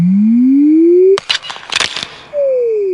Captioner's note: ice cracking